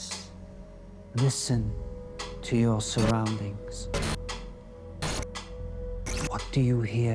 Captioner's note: eerie music; static hissing